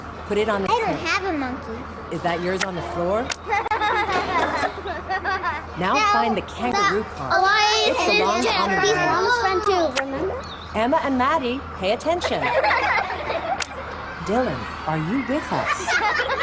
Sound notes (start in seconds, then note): 3.3 children laughing; 6.6 children speaking out; 12.2 children laughing; 15.4 children laughing